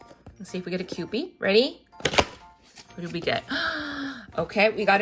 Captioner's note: gasps